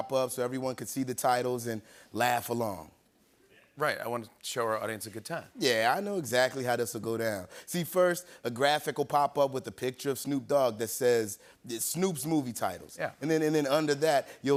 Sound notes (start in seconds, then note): none